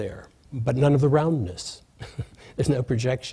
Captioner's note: laughs